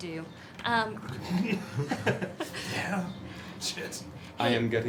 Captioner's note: laughter